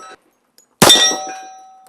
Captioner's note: bang